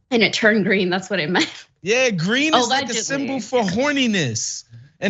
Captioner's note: laugh